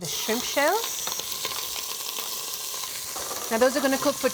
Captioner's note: sizzling